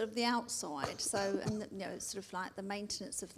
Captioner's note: coughs